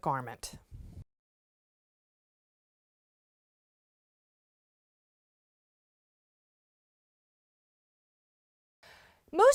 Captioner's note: no Sound Present